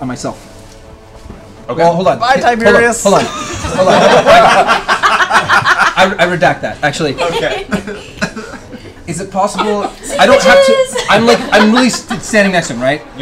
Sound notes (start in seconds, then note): 3.1 laughs; 3.1 laughter